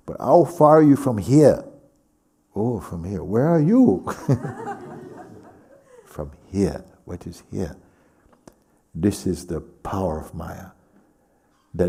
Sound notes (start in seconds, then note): 4.0 laughter